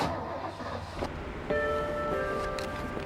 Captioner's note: engine starting; soft mysterious music